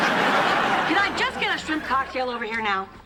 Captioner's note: laughter